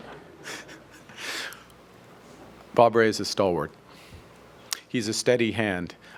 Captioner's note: laughter